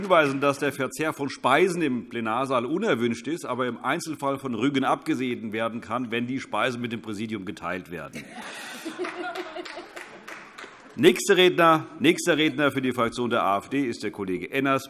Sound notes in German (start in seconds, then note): 8.1 Heiterkeit und Beifall